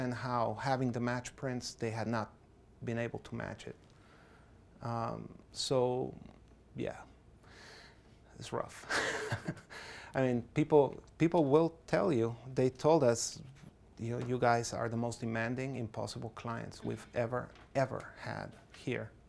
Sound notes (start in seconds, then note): 8.9 laughs softly